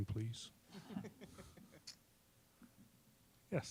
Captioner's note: scattered laughing